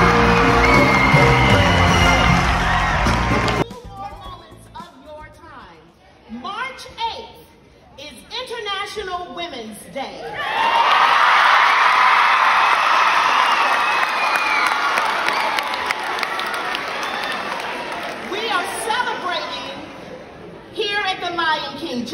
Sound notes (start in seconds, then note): 10.5 crowd cheering